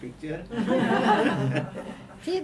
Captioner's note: all laughing